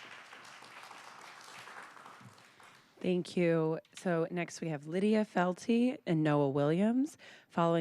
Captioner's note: applause